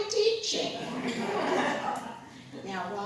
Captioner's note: laughter